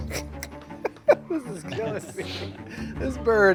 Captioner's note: playful music; Baratunde laughs